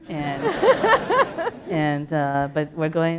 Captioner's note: laughter